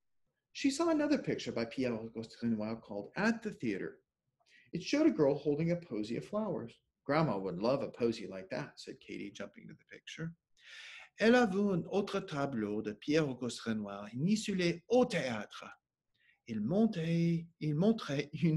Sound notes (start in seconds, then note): 11.1 speaking French; 17.5 speaking French